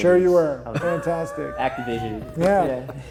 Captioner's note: chuckles; laughing